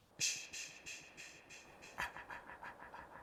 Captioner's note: shushing